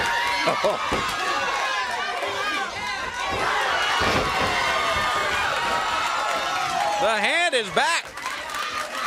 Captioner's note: crowd cheering